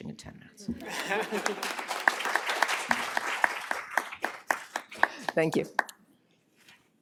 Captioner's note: applause